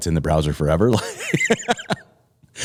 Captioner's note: laughter